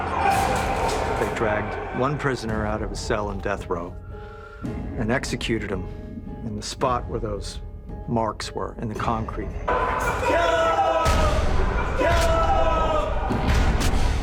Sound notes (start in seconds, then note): 9.8 men shouting